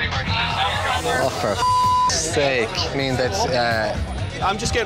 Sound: beep

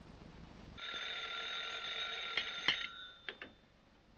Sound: phone rings

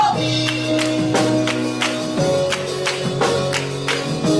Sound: chorus clapping

